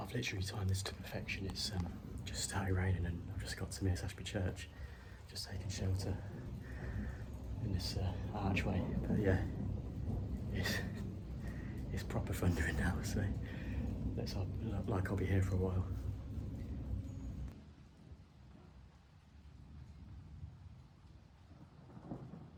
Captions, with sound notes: I've literally timed this to perfection it's just started raining and I've just got to Mears Ashby Church just taking shelter in this archway (Loud thunder) but yeah it's proper thundering now so looks like I'll be here for a while